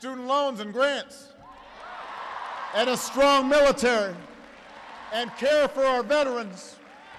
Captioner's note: applause